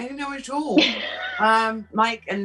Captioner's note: chuckles